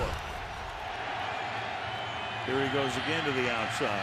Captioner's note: crowd cheering